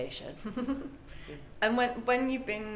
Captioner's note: laughs